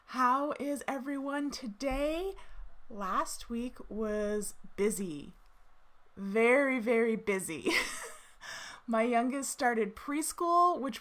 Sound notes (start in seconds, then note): 7.7 chuckles